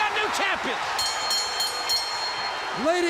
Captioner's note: bell ringing